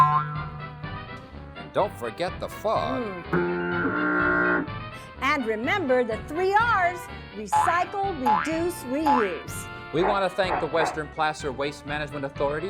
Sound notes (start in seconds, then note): 0.0 ping!; 3.3 fog horn!